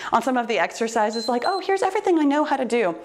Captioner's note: timer beeps